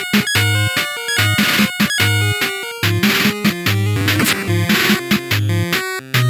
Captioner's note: which sounds like a 8-bit version of a car alarm